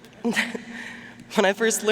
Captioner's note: chuckling